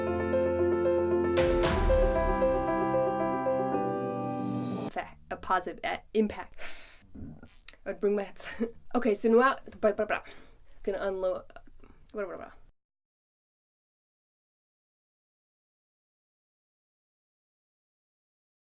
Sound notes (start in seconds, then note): 6.6 exhales; 7.1 burp